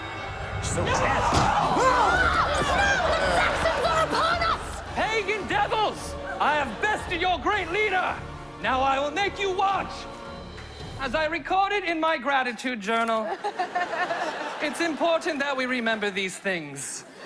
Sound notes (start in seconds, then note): 1.2 clamoring; 13.2 laughter; 17.0 laughter